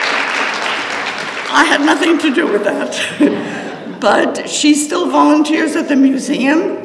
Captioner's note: applause